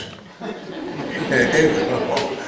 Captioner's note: audience chuckle